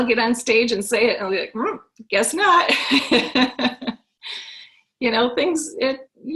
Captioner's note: laughs